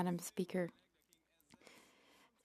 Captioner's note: speaking in French